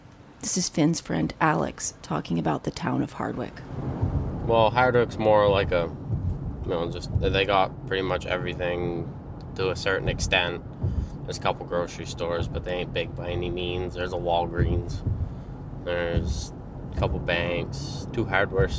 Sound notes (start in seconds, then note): none